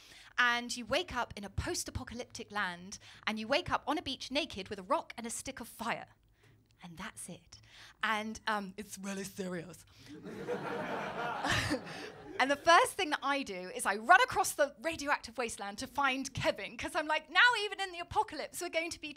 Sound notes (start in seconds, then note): 10.1 laughter